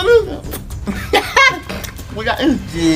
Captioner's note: laughing